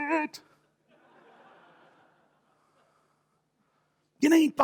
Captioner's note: audience laughter